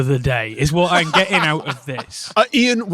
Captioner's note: laughs